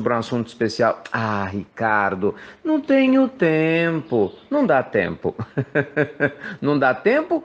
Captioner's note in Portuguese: risos